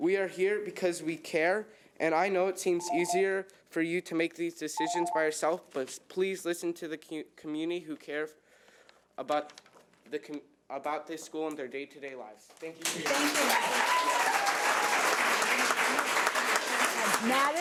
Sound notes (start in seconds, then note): 2.8 timer trills; 13.1 audience cheers; 14.8 audience applauds